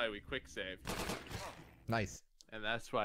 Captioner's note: gunshots